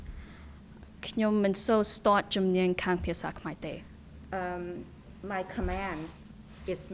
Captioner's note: speaking in a foreign language